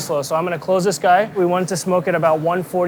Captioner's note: none